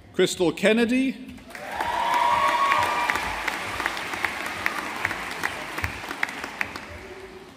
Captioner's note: audience applauding